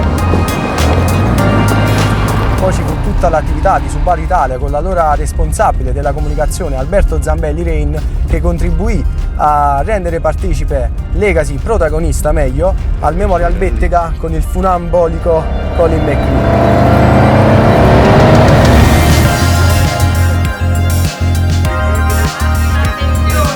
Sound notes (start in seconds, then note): 0.3 synth music; 18.0 high rpm; 19.0 synth music